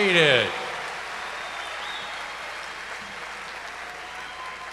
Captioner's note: cheers and applause